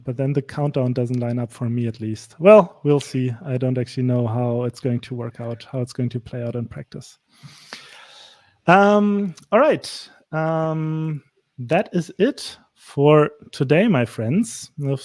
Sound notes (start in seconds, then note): none